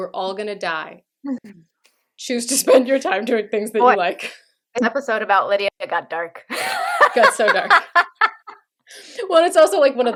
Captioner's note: laughter